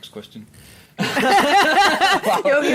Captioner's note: laughing